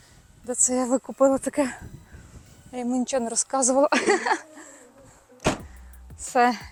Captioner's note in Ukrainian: сміх